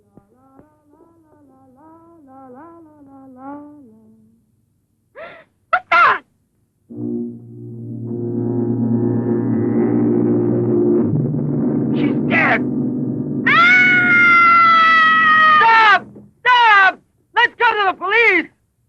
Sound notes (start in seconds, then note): 6.9 ominous instrumental music; 13.4 woman screams